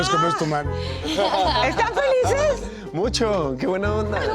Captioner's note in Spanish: risas